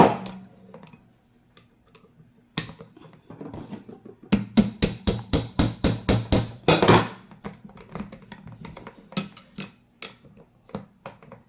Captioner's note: hammering sound